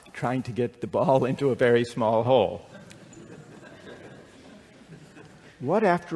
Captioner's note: laughter